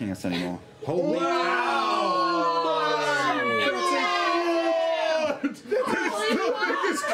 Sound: shouting

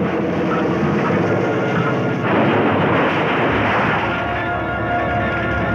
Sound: suspenseful music; crashing; explosion booming

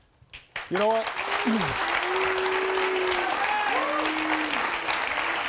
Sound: audience applauding

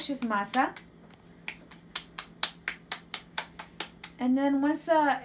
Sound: claps dough

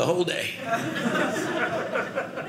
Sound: audience laughing

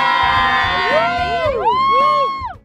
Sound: cheering

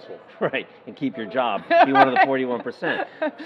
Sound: laughing

